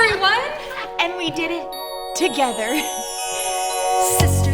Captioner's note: happily laughs